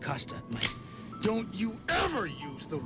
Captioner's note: gun cocks